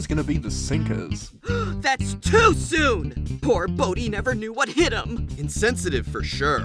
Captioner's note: gasp